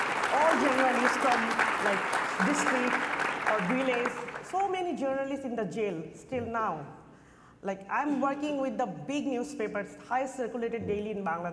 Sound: applause

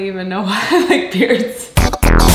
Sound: laughs; dance music

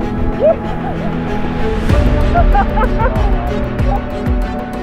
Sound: dramatic music continues; laughing

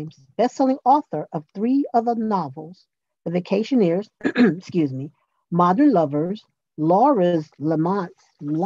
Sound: clears throat

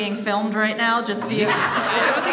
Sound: all laugh

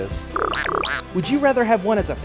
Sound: nervous chirp!

